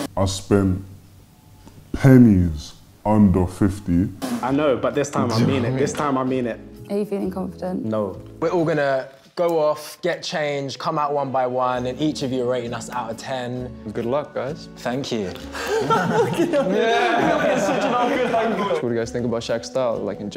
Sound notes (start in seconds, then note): 15.4 laughing